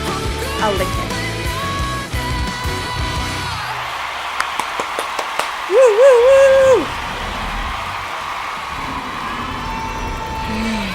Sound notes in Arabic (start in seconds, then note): 2.9 هتاف الجمهور; 3.6 تصفيق بالأيدي